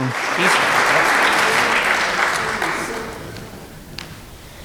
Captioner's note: applause